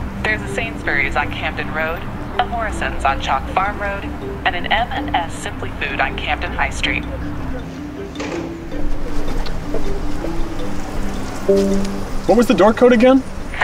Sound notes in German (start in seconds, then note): 11.4 Glockenton